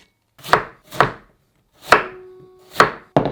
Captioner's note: knife chopping